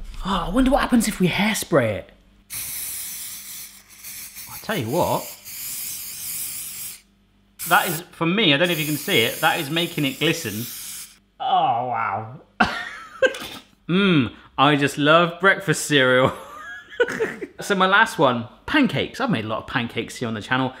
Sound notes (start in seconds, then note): 2.5 spraying; 12.6 gleeful laughter; 16.4 chortle